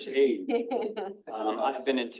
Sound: attendees laughing

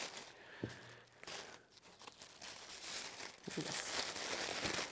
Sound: paper rustling

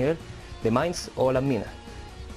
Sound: spanish

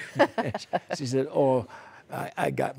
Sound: laughter

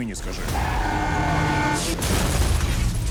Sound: horn blares

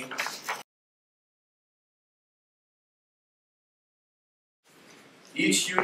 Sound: silence

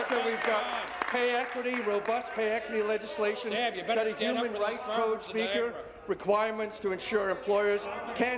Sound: applause

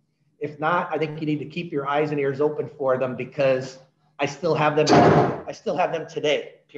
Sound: loud bang

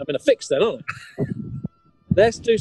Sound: chuckling

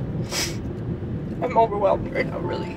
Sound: sniffles

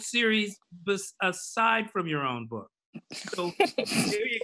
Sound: laughs

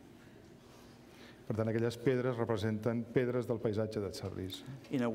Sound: speaking catalan

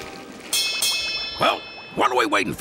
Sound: bell rings

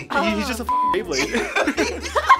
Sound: beep; both laugh

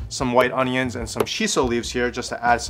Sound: air popping

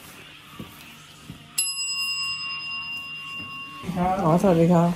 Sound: ring

